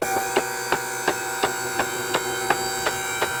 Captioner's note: buzzing